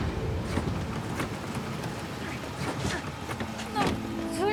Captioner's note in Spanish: ruido de los motores